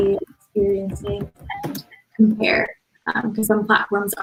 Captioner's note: radio interference drowns out speaker